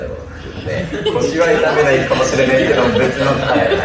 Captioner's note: laughs